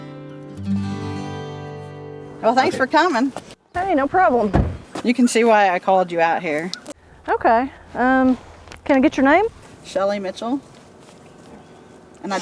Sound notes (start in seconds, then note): 4.2 car door slamming